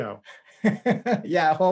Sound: laughing

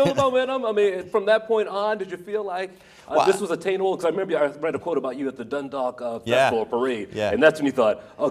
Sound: laughter

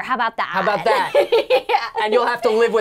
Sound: laughing

